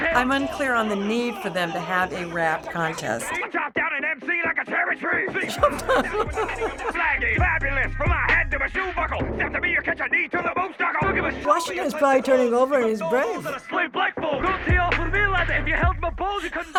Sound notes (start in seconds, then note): 5.4 laughs